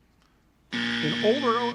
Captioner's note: buzzer